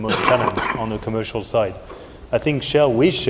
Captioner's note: coughing